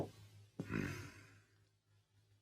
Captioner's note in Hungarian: Liszt hümmög